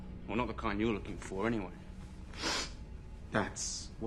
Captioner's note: none